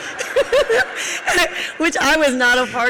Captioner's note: audience laughs